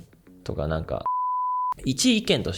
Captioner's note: beep